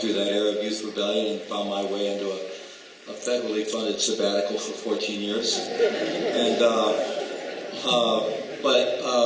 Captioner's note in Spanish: risas